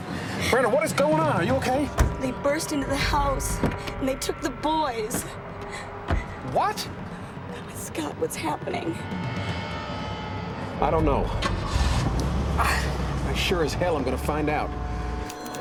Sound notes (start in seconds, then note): 11.0 ignition starts; 12.2 exhales deeply